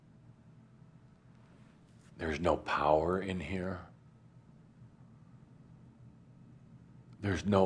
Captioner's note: none